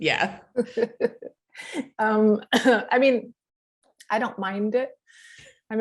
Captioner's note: laughs